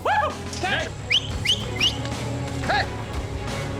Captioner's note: whistling